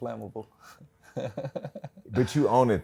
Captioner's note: laughs